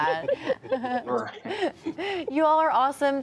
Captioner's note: people laughing